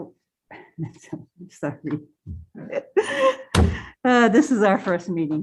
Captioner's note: laughs